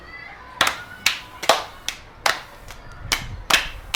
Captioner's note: clapping